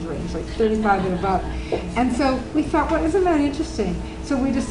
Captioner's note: audience Laughing